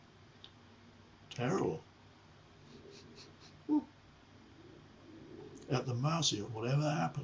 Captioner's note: chuckling